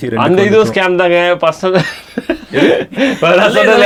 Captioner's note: laughs